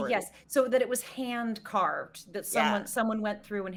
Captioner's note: none